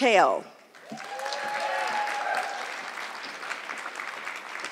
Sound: audience clapping

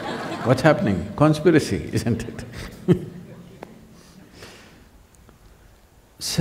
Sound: laughs

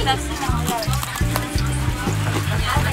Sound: crunch

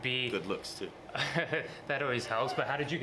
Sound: laughs

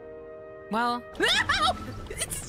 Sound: yelping

